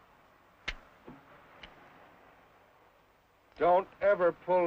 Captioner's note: gun clicks